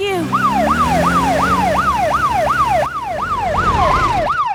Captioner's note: siren